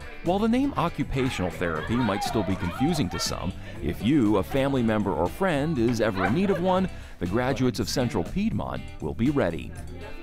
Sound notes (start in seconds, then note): 3.8 class exclaims; 5.6 student laughs